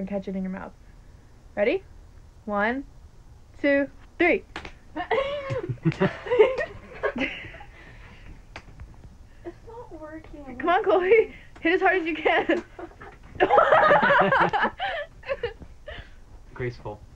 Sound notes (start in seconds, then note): 5.0 everyone laughs; 13.4 everyone laughs